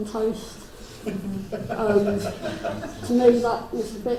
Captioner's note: crowd laughs